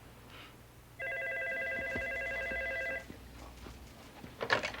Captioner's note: phone ringing